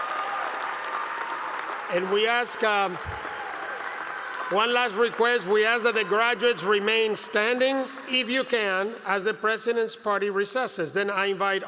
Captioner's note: applause